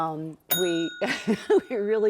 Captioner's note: bell dings; laughs